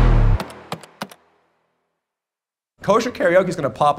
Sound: computer keys clack

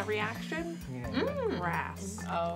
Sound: intrigued noise

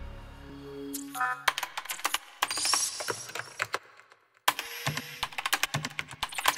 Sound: keyboard clacking

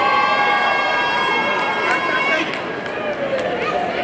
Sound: audience cheering

